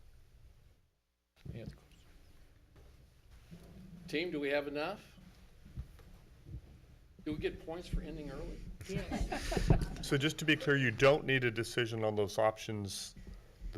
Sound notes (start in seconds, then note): 9.0 audience laughs